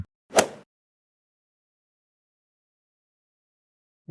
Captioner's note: golf ball hit sound effect